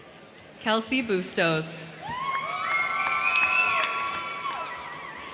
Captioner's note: crowd cheering